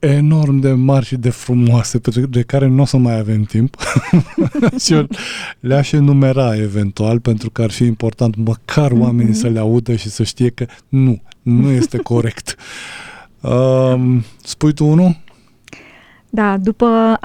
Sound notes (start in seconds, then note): 3.8 laughter; 15.8 sigh